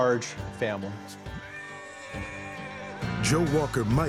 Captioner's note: horse neighs